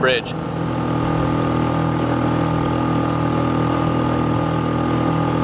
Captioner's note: boat engine roaring